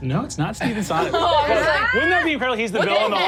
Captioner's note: laughs